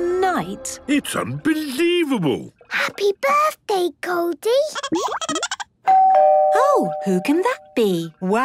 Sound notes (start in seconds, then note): 4.9 Goldie giggling; 5.8 doorbell ringing